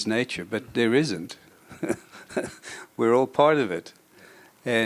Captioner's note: chuckles